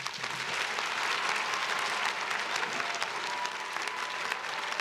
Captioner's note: crowd cheering